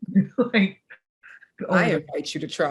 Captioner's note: laughs